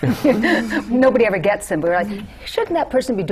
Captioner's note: laughter